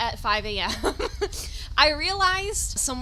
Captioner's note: chuckles